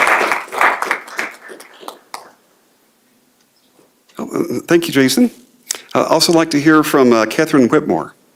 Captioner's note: applause